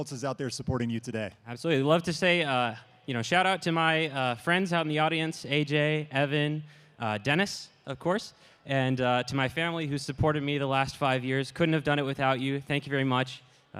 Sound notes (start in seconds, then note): none